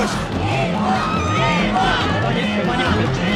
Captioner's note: commentator in English; crowd chanting